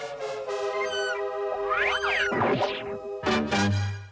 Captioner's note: squawk squawk